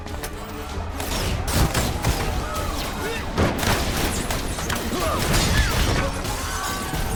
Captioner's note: lasers blasting; man yells